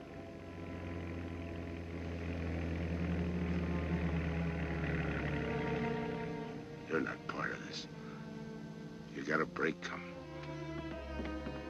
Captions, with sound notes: (CAR APPROACHING) You're not part of this. You've got a break coming.